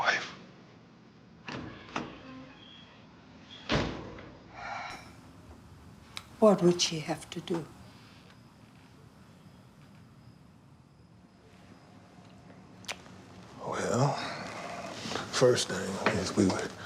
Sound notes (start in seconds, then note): 1.4 door opens, closes; 4.7 sighs deeply